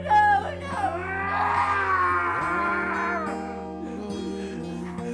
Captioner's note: Skull-Faced Assailant shouts; sobs